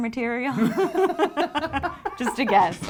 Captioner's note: both laugh